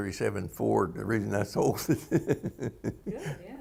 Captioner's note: laughter